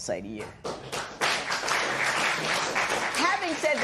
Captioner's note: applause